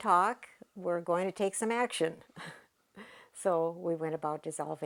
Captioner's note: laughs